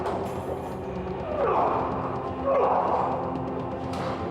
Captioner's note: man groaning